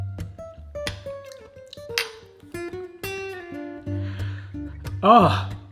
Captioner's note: light upbeat music; smacking lips